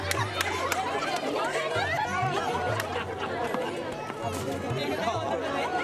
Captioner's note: laughter